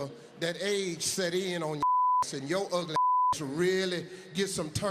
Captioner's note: beep